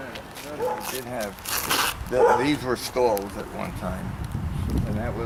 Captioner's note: dog barking in the background